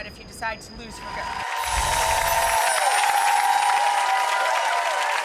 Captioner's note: crowd cheering